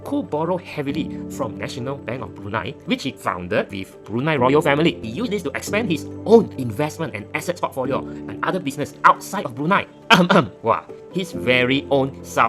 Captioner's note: cough